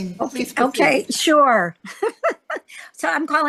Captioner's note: laughing